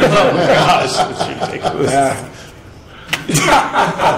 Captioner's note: laughing